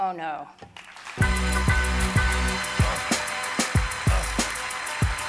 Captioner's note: audience applauding